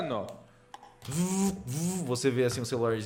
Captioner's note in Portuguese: zzz-zzz